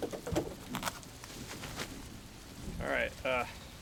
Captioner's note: heavy rain pitter-pattering